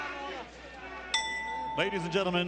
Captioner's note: bell rings